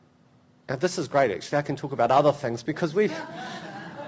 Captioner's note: laughter